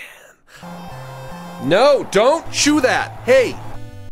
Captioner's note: normal voice